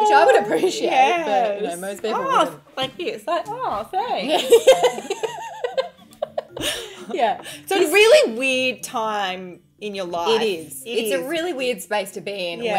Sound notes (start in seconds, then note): 4.3 laughing